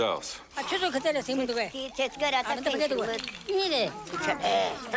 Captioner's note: Arguing In Ewokese